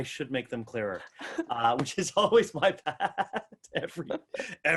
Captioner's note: laughs